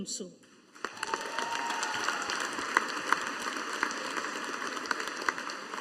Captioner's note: audience applauding